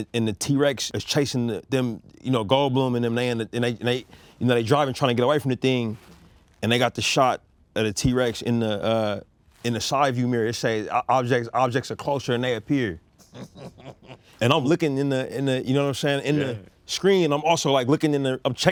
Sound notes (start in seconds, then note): 13.2 Spike laughs